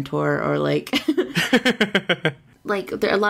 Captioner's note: laughs